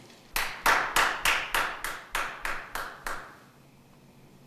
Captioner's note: Jeremy claps